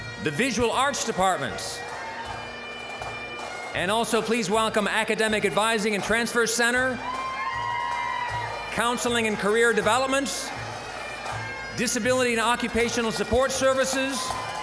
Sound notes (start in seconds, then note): 0.0 bagpipe music; 1.9 bagpipe music; 6.6 audience cheering; 14.4 audience cheering